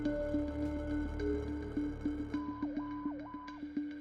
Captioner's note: image whirring/beeping